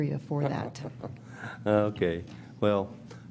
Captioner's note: chuckles